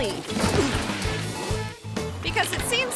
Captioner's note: bicycle crashes; mid-tempo music continues